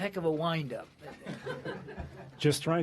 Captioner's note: laughter